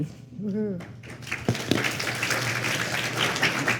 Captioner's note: applause